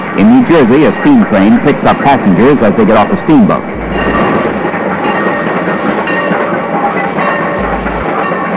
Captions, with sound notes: In New Jersey, a speed train picks up passengers as they get off a speed boat. [TRAIN BELL]